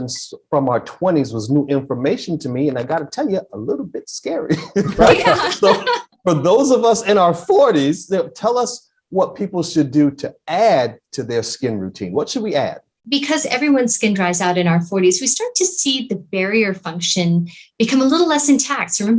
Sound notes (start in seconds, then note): 4.5 laughs; 4.5 all laughing